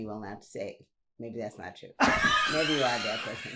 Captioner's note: laughs